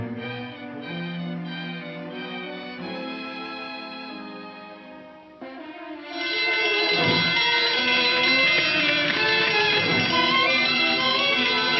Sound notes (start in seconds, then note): 5.9 alarm ringing